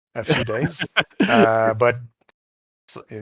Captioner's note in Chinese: 笑声